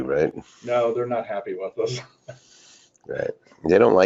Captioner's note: laughs